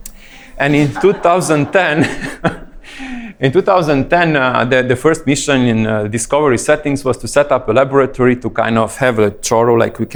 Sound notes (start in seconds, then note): 0.0 laughing